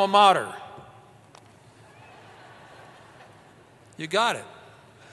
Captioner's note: laughter